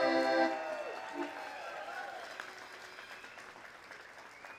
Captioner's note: crowd cheering